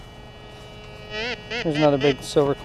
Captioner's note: detector beeps